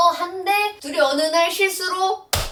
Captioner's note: bammm